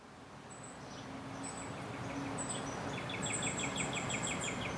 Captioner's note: birds chirping